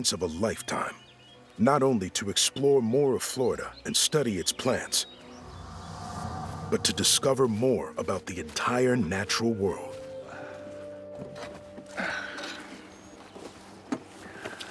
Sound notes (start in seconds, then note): 11.5 grunts